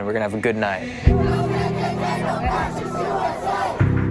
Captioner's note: chanting